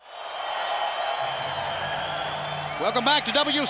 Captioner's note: crowd cheering